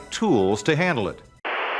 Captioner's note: static